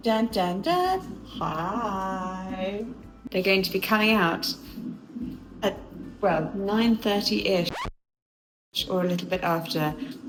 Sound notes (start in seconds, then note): 6.6 record scratches